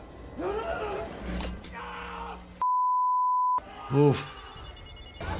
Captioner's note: victim screaming